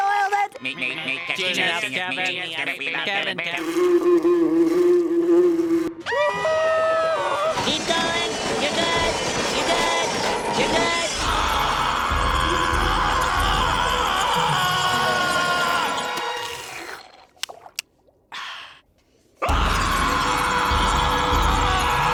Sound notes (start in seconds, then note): 3.6 buzzing; 5.0 screaming; 10.6 screaming; 15.8 slurping; 19.4 screaming